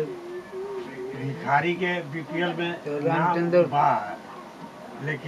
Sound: talking in background

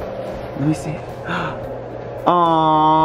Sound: gasp

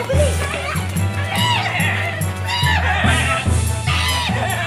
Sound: Facundo neighing; Primitivo cawing

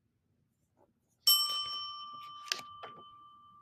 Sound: bell dings

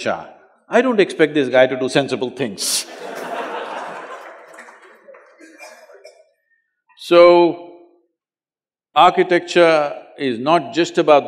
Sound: laughter

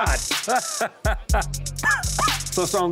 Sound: laughs

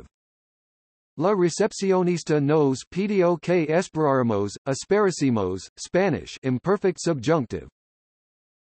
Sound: Spanish

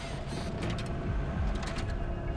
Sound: brakes squeal; clicks gearshift

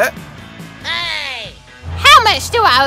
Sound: hey! Shouted

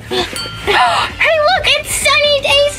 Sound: gasp

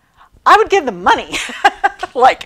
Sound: laughing

